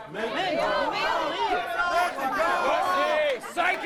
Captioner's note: crowd chanting